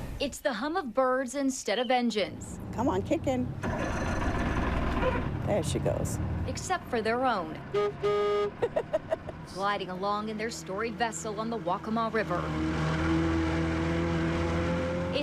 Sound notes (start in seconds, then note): 7.4 horn toots; 8.5 laughs; 12.7 engine roaring